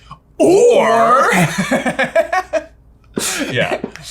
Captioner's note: laughing